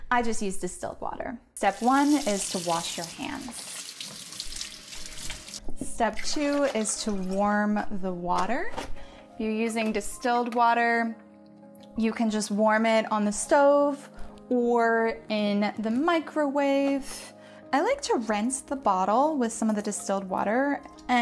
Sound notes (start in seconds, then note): 4.3 water splashing